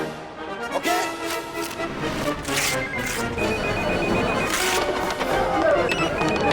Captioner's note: paper tearing; phones ringing